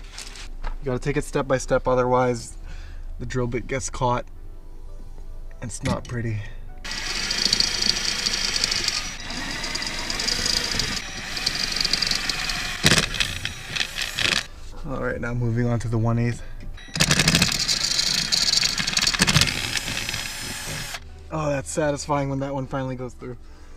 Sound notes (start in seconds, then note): 6.8 drilling